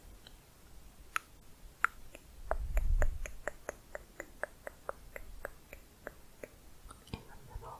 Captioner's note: tongue clicking